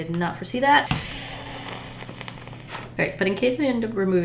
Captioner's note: nervous inhale